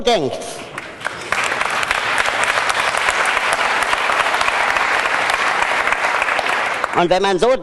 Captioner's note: applause